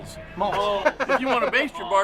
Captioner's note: laughs